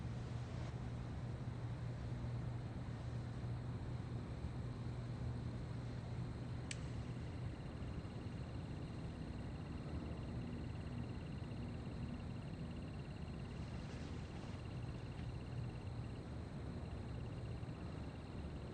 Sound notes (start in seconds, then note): 6.8 light clicks; 8.4 crickets stridulate